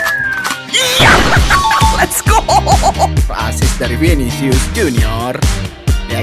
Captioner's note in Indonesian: tertawa